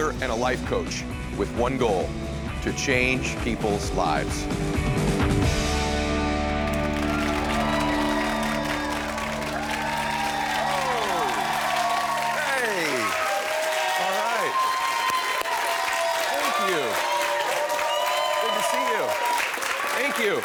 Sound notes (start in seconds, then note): 6.8 audience applauding